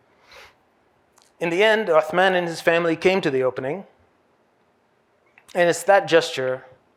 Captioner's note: hebrew